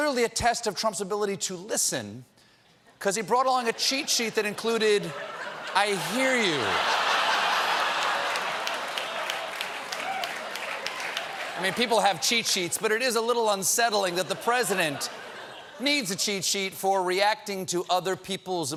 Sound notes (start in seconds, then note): 8.4 applause; 8.4 laughter